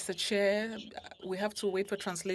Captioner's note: speaking French